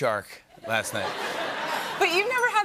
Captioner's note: laughter